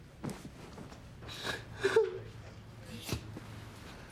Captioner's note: sobs